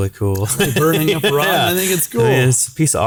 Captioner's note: laughing